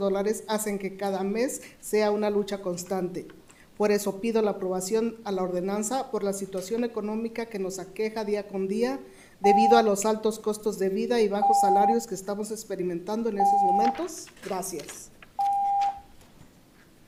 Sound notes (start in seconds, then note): 1.8 speaking in spanish